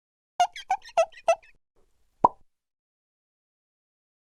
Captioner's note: squeaking